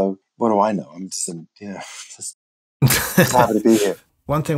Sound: laughter

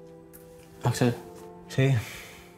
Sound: sighing

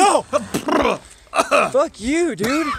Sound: coughing

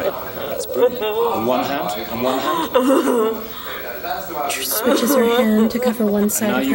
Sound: actress crying

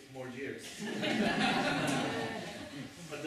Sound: laughter

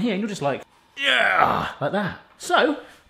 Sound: grunts

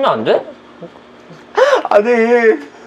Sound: sob↗

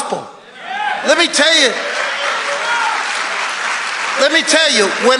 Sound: congregation applauding

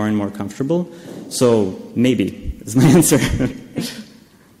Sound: laughs

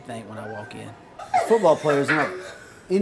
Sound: laughter

